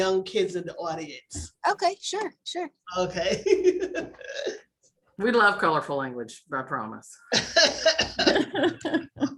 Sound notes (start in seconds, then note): 7.3 laughter